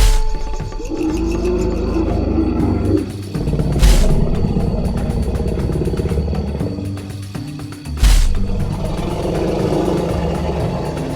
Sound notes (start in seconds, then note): 0.0 dinosaur growling; 3.8 feet stomping